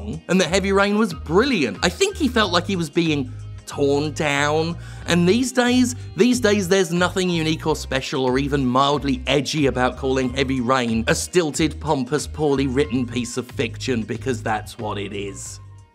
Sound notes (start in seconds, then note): none